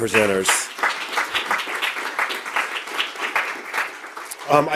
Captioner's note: audience applause